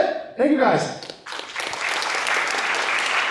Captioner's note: applause